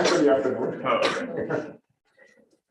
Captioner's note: laughter